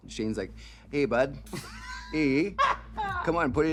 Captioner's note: laughing